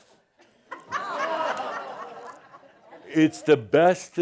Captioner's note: audience says “Ohh!” and some chuckles